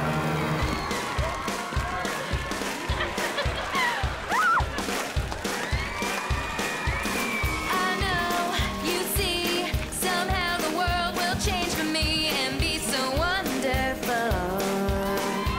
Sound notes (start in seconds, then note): 2.5 laughing, music playing